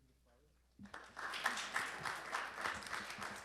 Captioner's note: applause